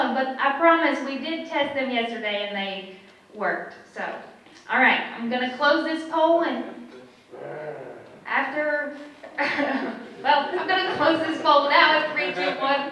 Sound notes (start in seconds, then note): 7.3 audience member growls in frustration; 12.7 audience chuckles